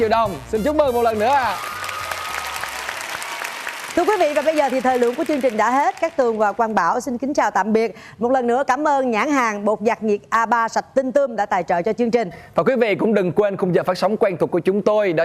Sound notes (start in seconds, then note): 1.6 clapping